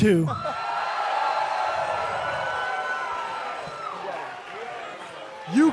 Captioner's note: crowd cheering